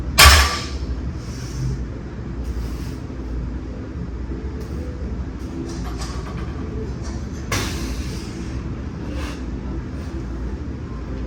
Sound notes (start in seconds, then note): 0.2 weight clanks; 7.6 exhales